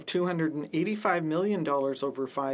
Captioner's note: speaking French